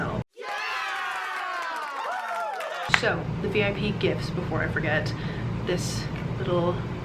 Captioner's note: cheering